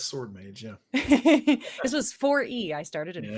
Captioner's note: laughs